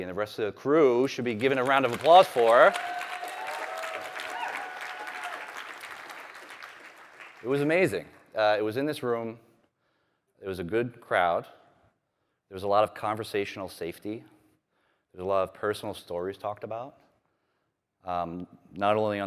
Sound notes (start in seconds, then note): 6.7 applause